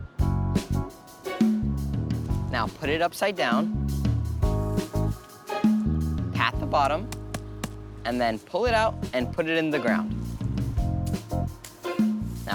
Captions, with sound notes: (bright music) - Now put it upside down. (bright music) Pat the bottom, (container thuds) and then pull it out and put it in the ground. (bright music)